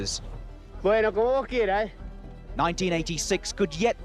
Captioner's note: Maradona speaks foreign language